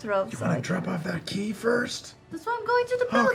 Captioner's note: loud whispering